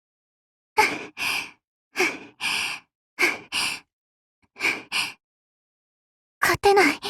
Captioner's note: panting